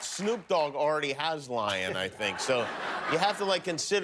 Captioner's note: cheers and applause